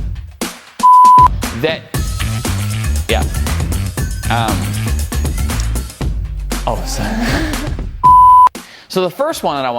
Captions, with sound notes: Yeah. Oh, sorry (laughing). So, the first one that I want